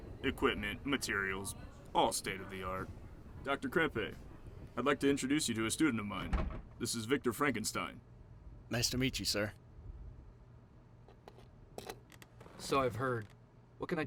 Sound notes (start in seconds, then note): none